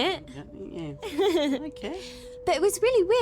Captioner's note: Charlotte laughing